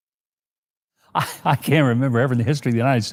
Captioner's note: laughing